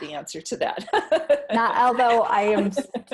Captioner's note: laughing